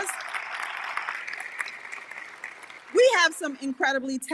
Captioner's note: audience applauding